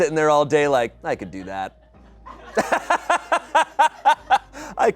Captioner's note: laughs